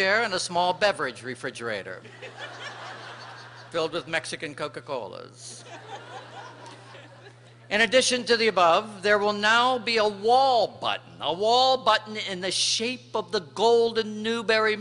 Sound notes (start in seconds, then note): 5.6 laughter